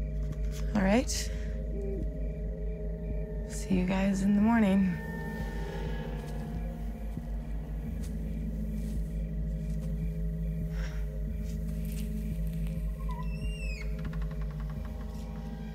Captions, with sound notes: All right. See you guys in the morning. [window opening]